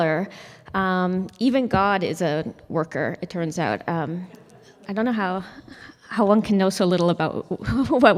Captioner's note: laughter